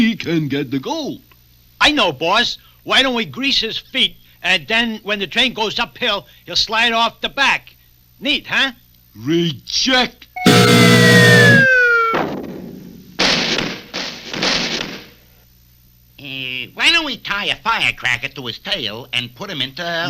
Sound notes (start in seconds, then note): 10.4 buzzer Sounds; 11.7 crash!